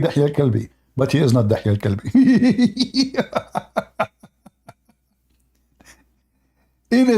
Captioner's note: Ketawa